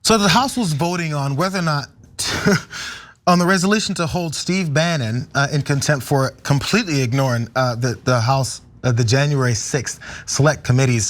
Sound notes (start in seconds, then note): 2.2 laugh